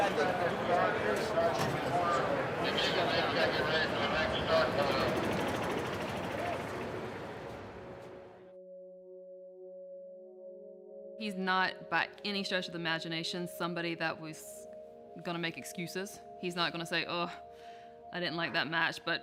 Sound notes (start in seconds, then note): 2.5 radio chattering; 8.3 melancholic music